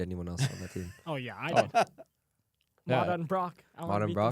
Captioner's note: laughs